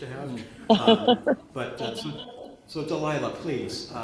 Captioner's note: laughter